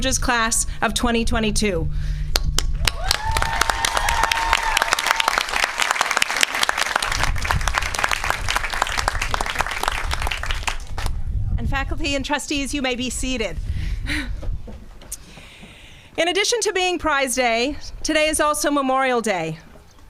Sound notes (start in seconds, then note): 3.7 applause